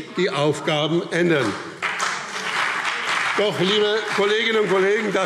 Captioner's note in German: Beifall BÜNDNIS 90/DIE GRÜNEN und CDU